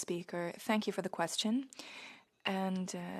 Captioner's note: speaking french